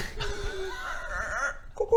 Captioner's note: obscure animal noises